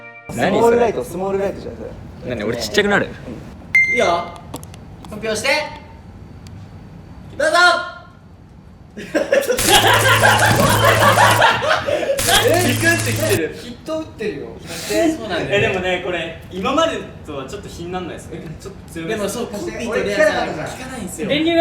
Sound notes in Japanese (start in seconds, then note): 9.6 電流の効果音; 9.6 爆笑